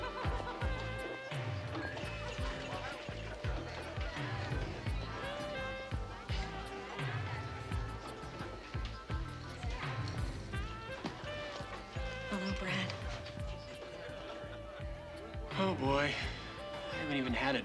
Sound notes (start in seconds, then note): 0.9 soft jazz music; 3.6 chatter